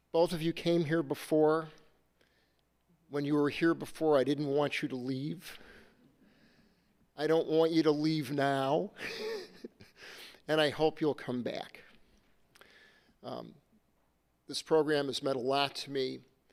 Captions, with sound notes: Both of you came here before, when you were here before, I didn't want you to leave. I don't want you to leave now (laughs), and I hope you'll come back. This program has meant a lot to me.